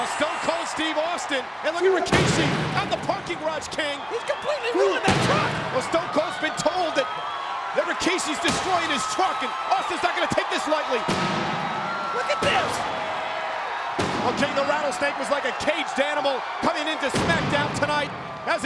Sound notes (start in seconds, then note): 11.1 metal thudding